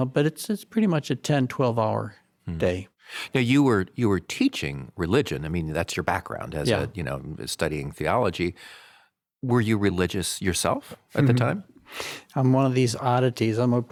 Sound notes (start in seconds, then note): 11.5 chuckles softly